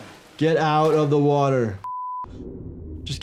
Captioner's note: beep